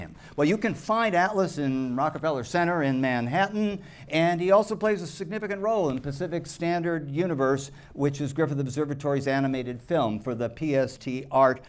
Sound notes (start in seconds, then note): none